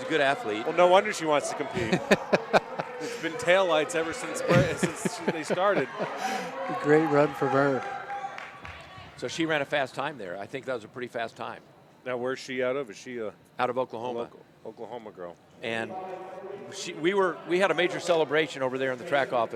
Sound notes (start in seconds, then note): 6.8 laughter